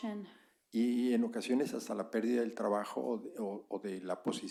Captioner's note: spanish